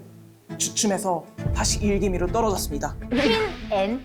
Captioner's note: on the brink of ruin sound effect; interested sound effect